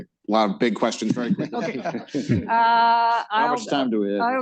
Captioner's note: laughter